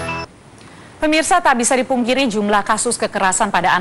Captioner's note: non-english speech